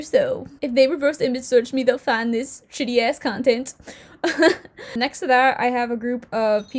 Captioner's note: giggle